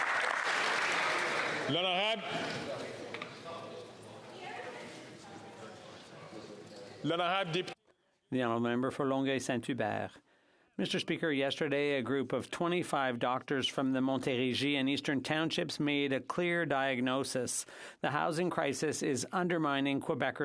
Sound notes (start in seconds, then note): 3.0 some Applause